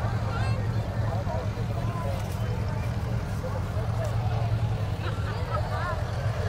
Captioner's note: revving and chattering continue